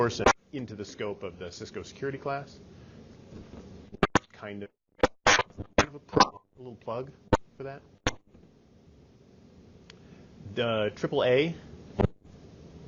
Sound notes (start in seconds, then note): 5.0 mic glitching